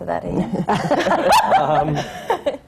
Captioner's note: laughter